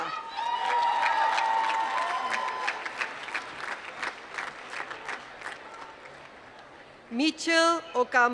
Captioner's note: applause